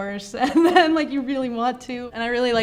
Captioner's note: laughs